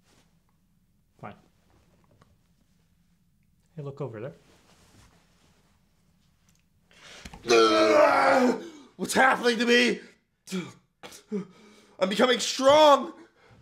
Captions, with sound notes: Fine. Hey, look over there. [yelling] What's happening to me? I'm becoming strong!